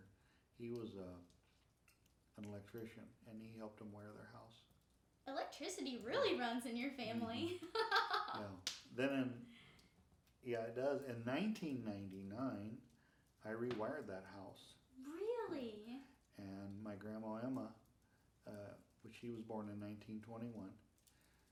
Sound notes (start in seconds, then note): 7.2 laughing